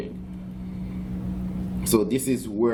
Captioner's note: background chatter